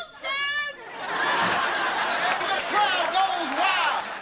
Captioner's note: audience laughter